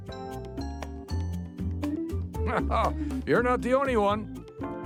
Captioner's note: chuckles